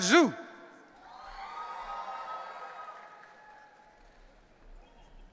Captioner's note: audience cheering